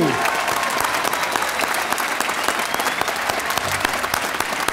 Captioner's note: audience applauding